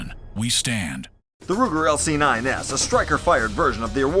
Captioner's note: voiceover